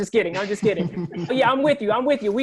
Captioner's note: laughter